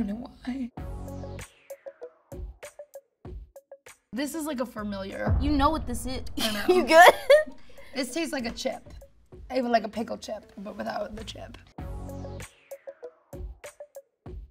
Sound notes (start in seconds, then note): 1.3 funky music; 4.5 suspensful music; 6.6 laughing; 11.7 funky music